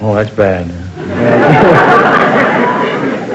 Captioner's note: audience laughter